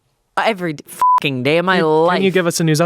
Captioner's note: beep